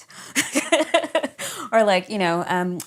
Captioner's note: laughs